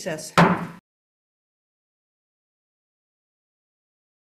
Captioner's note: gavel pounding